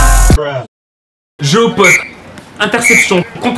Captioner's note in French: coup de sifflet